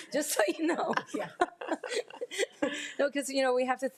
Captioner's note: attendees laughing